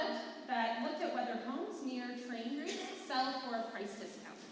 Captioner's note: none